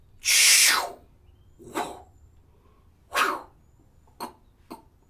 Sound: makes Spider-man sounds

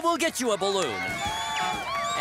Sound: cheering, applauding

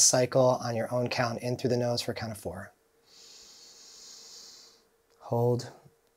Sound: inhaling deeply

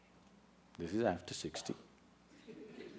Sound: laughter

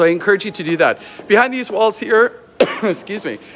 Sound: coughing

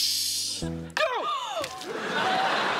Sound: gasping

